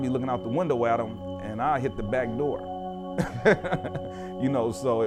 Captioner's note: laughter